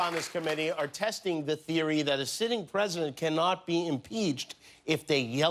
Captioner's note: cheers and applause